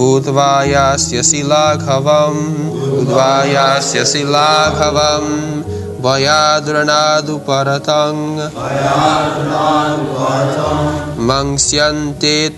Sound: leads chanting, etc

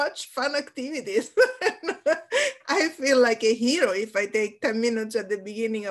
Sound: laughs

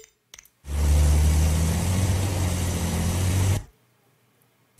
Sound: bank truck driving

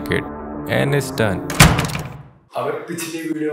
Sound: door opening

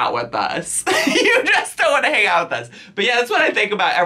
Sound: laughs

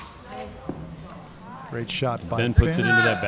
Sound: chattering

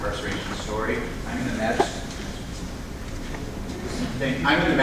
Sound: speaking faintly

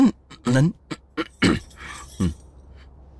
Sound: clears throat

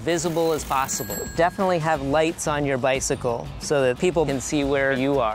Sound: bicycle bell chime

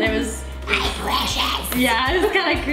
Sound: as Gollum

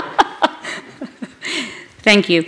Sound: laughter

